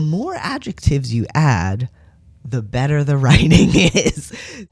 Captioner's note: laugh